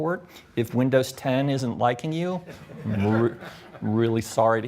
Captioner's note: audience laughs